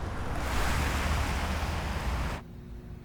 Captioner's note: traffic rushing